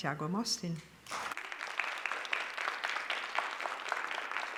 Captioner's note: applause